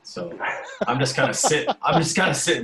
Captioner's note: laughing